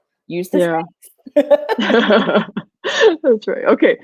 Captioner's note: both laugh